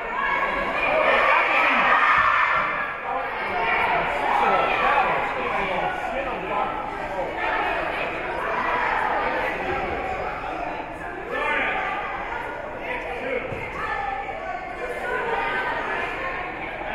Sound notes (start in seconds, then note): 0.1 team chanting; 3.1 spectators and teams chattering